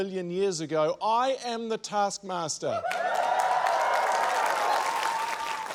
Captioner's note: cheering, applause